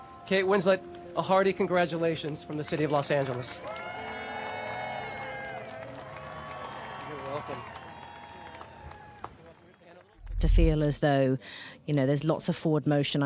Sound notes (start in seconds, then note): 3.5 crowd cheer; 3.9 crowd clap